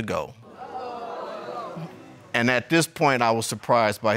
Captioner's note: crowd gasping